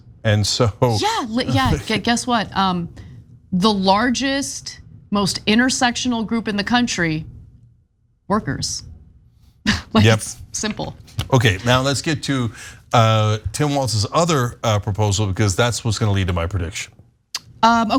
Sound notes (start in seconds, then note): 11.2 laugh